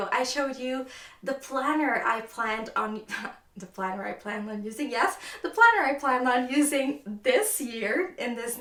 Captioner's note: laughs